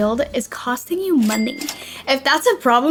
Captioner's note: cash register dings